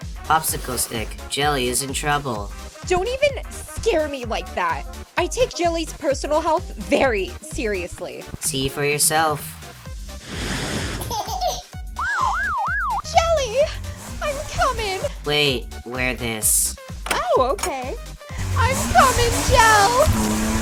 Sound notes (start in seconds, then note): 11.8 Popsicle Stick gasps